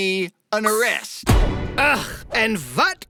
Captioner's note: dramatic Hit SFX